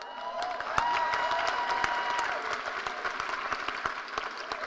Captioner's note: cheers and applause